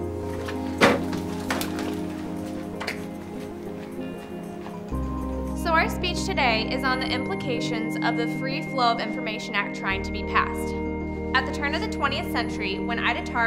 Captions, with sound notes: [door slams shut] [dramatic electronic music] - So our speech today is on the implications of the Free Flow of Information Act trying to be passed. At the turn of the 20th century, when Ida Tarbell